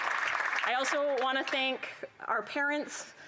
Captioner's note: applause